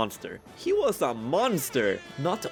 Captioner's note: airhorns sfx x3